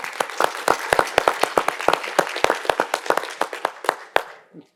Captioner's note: audience applauding